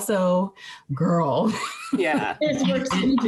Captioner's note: laughing